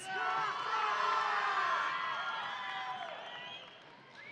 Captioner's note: audience cheering